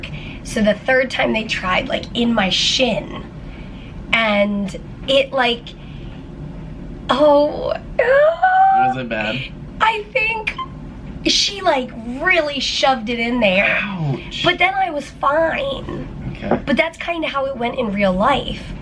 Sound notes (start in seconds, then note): none